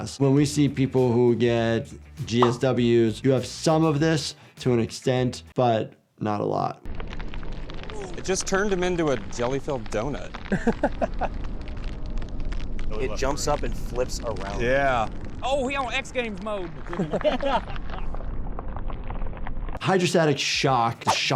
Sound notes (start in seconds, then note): 10.4 person laughing; 16.8 people laughing